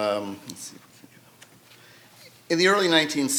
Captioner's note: faintly speaking